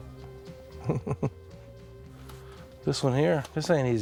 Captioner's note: chuckles